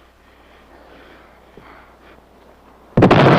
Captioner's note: exhales; explosion